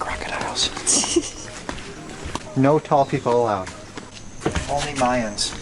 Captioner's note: laughs